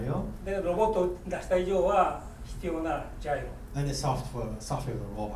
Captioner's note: speaking in foreign language